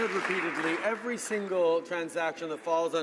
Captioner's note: some Applause